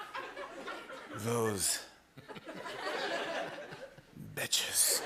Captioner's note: laughter; laughter